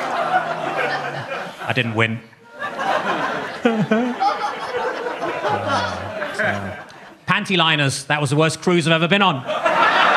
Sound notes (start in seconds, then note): 3.5 Gary chuckling